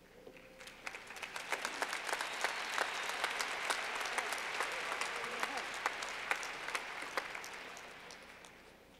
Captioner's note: clapping